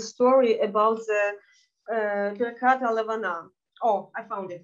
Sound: speaking in Yiddish

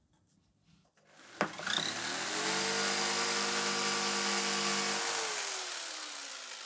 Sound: jigsaw whirring

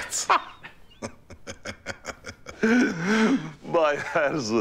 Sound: laughter

